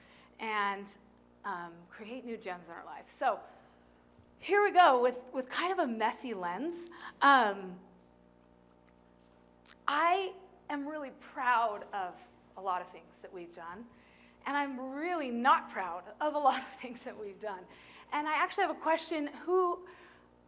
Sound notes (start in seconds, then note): 16.3 laughter